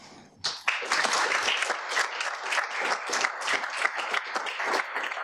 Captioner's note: audience applauding